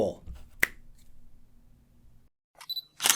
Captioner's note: fingers snapping; camera beeps